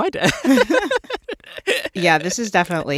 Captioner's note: laughter